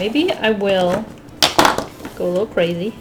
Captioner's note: marker thumps on table